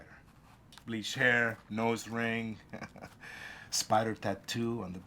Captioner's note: chuckles